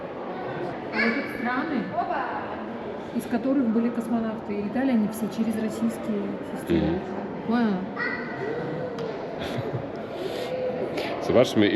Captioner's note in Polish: śmiech